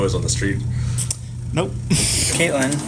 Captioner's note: laughs